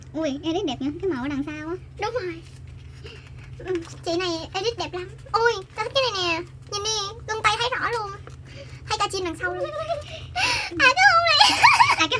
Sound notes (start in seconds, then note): 5.3 more admiring noises